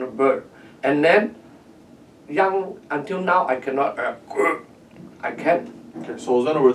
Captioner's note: croaking